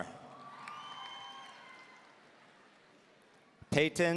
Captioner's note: audience cheering